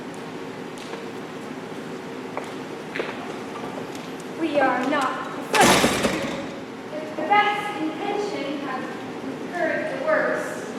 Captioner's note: door opens offscreen